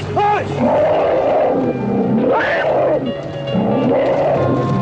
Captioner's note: elephant roars